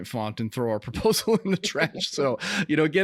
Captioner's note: laughing